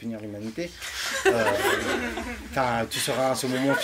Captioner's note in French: rires